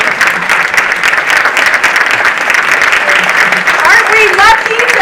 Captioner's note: audience applauding